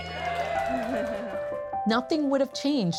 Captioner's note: audience cheering